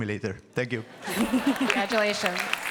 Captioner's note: applause